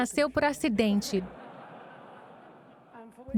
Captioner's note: audience laughing